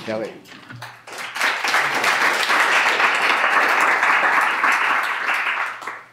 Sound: clapping

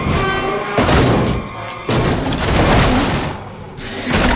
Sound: crash

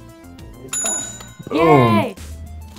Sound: bell rings; voiceover

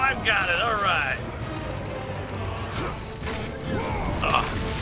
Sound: Kratos grunts; button mashing

